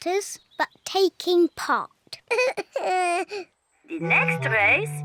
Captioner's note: sobs